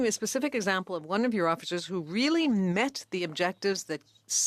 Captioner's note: speaking French